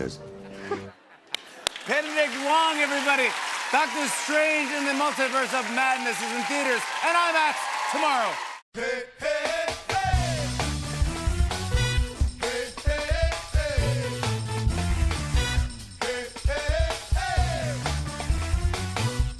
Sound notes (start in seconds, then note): 1.4 cheers and applause